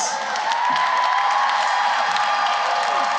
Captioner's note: cheering and applause